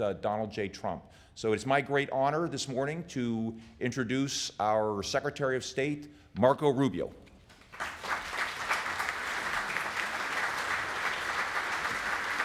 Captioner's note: applause